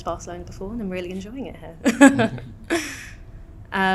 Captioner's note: laughs